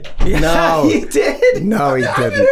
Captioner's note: chuckles